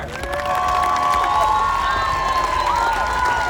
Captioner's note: crowd cheers